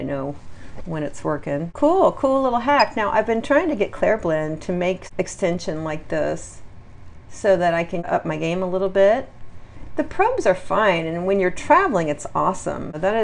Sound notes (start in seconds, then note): 2.7 quiet beeps